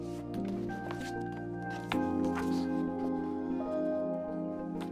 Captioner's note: book rustling